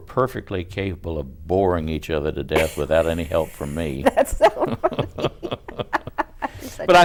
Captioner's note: laughter